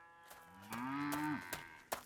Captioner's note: cows moo